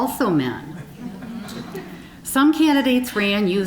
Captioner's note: audience chuckling